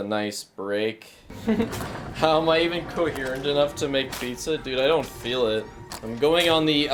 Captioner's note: laughs